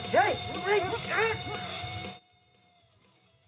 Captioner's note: Chad groaning; grunting; upbeat rock music